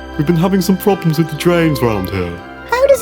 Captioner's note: drain noise